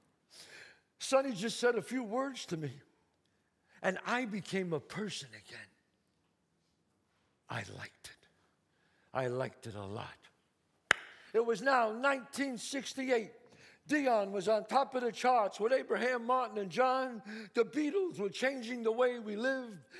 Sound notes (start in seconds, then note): 10.9 claps